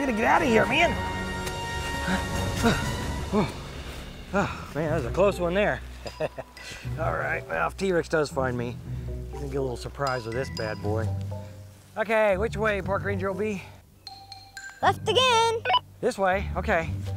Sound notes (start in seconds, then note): 2.3 upbeat orchestral music; 6.0 laughs